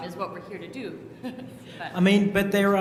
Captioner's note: laugh